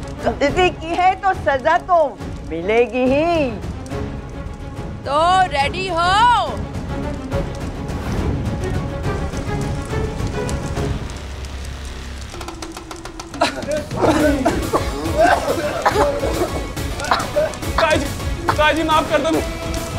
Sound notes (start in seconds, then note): 13.1 coughing